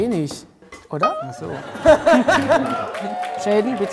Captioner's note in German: Gelächter